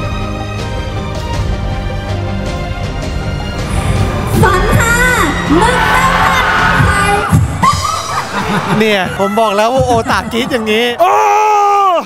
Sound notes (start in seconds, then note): 5.3 laughing